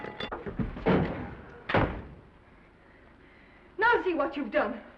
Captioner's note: tray shatters; Norman thuds